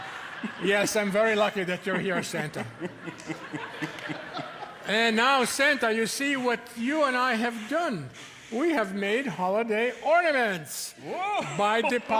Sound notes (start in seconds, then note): 3.1 audience laughing